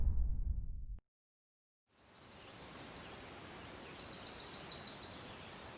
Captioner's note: birds chirping